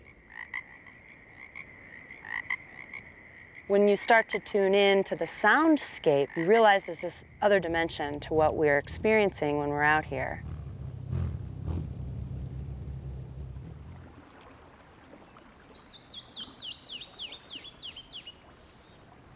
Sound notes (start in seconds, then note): 0.2 numerous frogs croaking; 10.4 humming of wings; 14.0 murmuring water